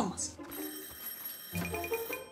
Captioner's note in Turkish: Kapı zili çalar